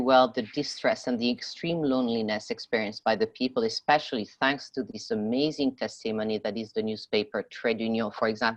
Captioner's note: speaking French